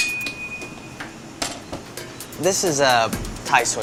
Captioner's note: noise of knife hitting the glass